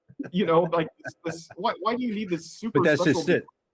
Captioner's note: laughing